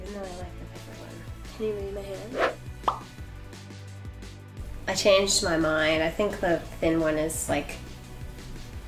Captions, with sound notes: even though I like the bigger one. Can you view my hand? (pop up sound) I changed my mind I think the thin one is